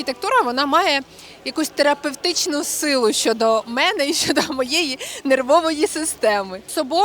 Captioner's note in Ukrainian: сміх